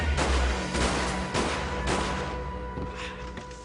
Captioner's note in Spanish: Disparos